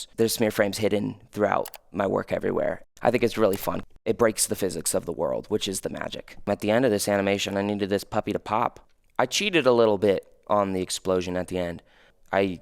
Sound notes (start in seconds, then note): 1.6 computer mouse clicking